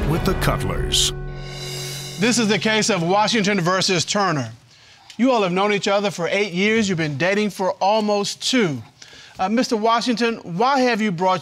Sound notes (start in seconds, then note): none